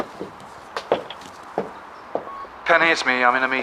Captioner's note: machine beeping